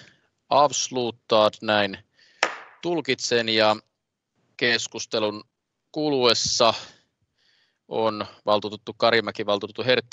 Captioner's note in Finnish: nuijan kopautus